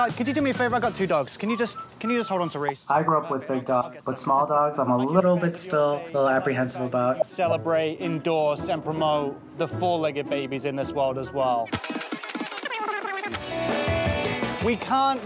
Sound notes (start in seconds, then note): 11.3 squeaking; 13.7 upbeat music